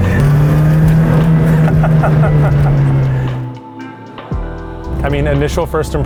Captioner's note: laughing; engine revving